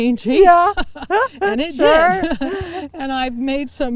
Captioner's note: laughs